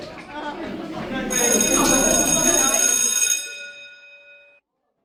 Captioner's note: bell ringing